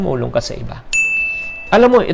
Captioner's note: chime